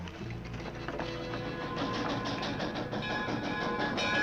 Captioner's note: train chugging; bell ringing